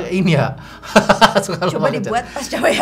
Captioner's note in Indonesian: Tertawa